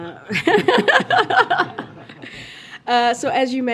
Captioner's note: laughter